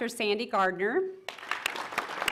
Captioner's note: applause